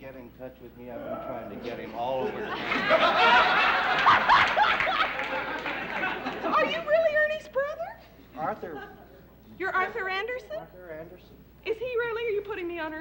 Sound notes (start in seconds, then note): 1.8 laughter; 2.6 cackles